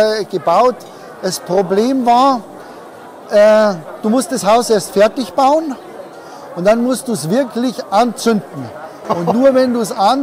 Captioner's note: laughs